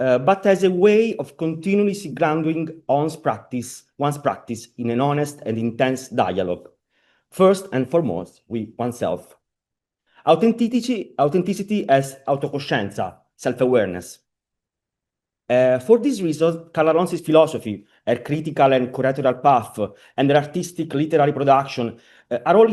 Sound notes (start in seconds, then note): 13.0 italian